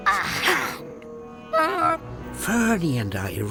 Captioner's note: gasping